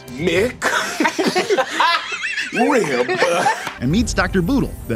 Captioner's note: all laughing